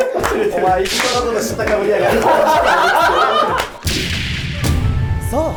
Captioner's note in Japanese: 一同：笑い